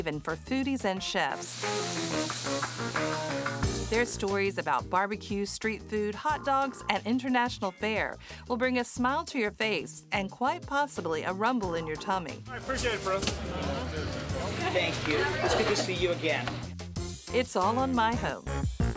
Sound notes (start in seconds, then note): 2.9 stove sizzling